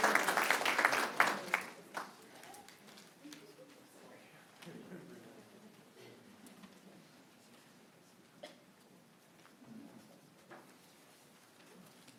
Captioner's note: applause